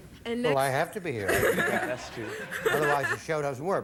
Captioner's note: audience laughing